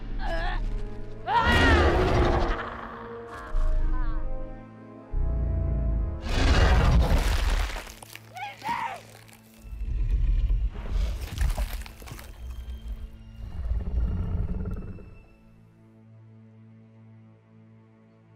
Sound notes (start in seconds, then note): 1.6 dinosaur roar; 6.3 crunching; 8.3 yelling; 9.3 crunching